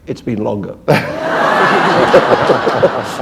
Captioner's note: laughter